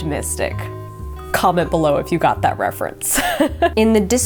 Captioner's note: laughing